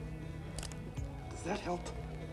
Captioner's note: hammer clicking